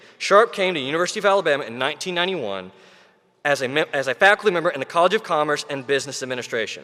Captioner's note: none